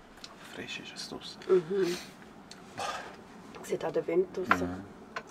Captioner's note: in Swiss German